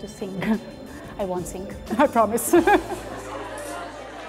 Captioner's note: laughs